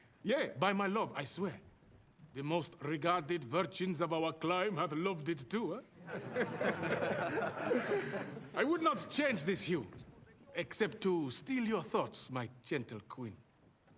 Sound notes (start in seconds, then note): 6.0 men laughing